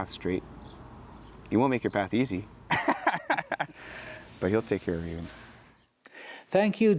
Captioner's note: laughs